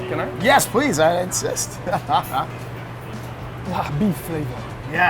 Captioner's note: laughing